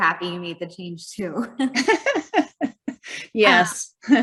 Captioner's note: both chuckling